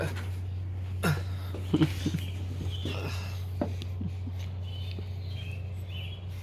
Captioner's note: gasp; both giggling